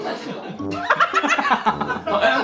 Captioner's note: cracking up at chang-ho's shamelessness